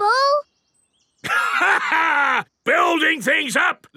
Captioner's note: laughs